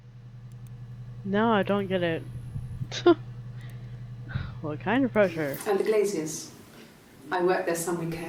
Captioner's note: scoffs